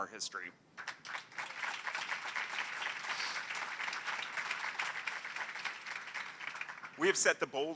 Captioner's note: applause